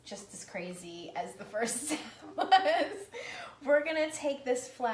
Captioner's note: laughing